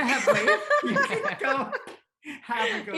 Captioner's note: all laughing